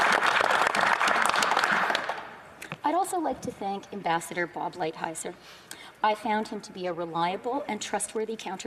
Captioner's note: applause